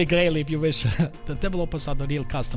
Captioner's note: laughs